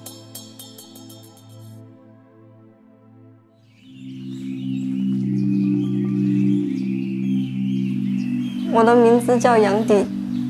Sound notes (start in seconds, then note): 3.7 sounds of birds chirping; 6.6 gentle marimba music